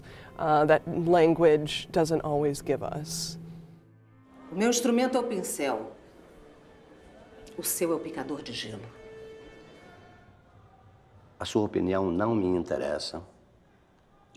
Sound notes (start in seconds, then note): 3.7 speaking foreign language